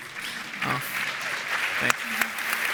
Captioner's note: audience applauds